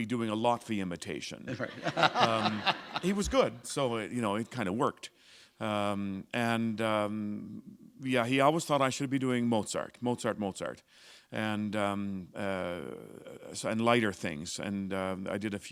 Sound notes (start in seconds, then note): 1.4 laughter